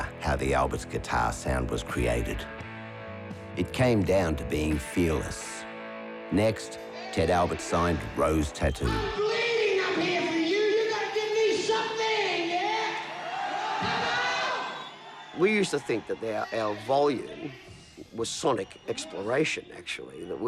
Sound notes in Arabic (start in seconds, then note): 12.6 الجمهور يهتف